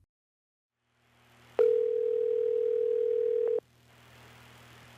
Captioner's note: phone dialing